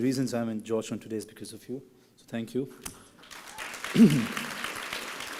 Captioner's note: applause